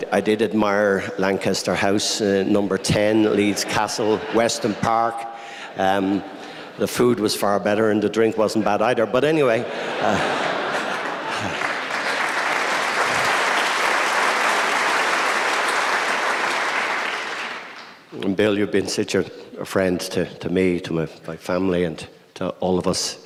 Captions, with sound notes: I did admire Lancaster House, Number 10, Leeds Castle, Weston Park. [LAUGHTER] The food was far better, and the drink wasn't bad either. But anyway. [LAUGHTER AND APPLAUSE] And, Bill, you've been such a friend to me, to my family, and to all of us.